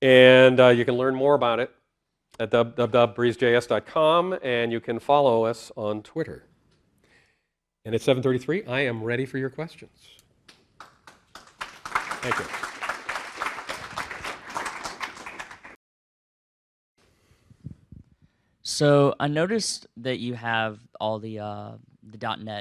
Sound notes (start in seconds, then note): 10.5 applause